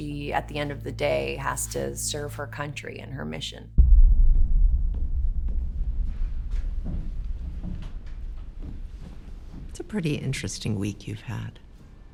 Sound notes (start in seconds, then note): 3.8 footsteps tapping; 3.8 tense music